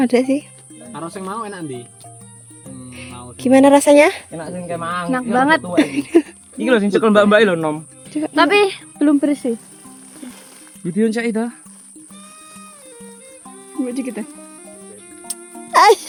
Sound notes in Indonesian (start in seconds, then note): 5.7 tertawa